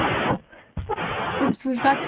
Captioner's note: white noise